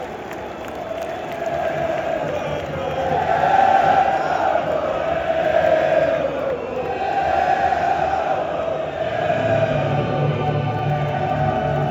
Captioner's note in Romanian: Aplauze